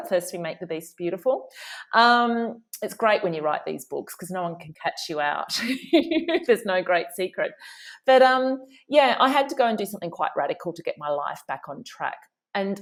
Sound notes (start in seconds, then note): 5.5 laughing